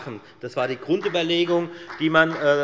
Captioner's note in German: Beifall bei der FDP